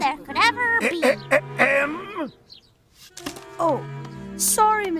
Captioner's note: teacher clears his throat